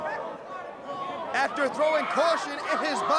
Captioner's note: crowd chatter